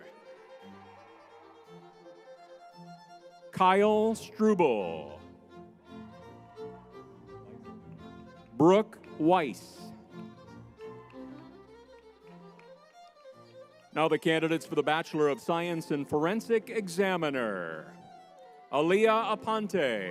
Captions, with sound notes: (crowd cheering) (lively music) Kyle Struble. (crowd cheering) Weiss, Brooke Weiss. (crowd cheering) (lively music) Now the candidates for the Bachelor of Science in Forensic Examiner, Aliyah Aponte.